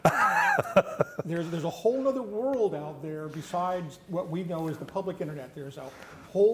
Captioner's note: laughter